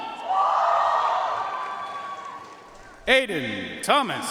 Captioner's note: audience cheering and applauding